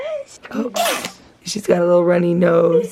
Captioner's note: baby sneezes